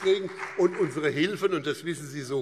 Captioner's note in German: Beifall BÜNDNIS 90/DIE GRÜNEN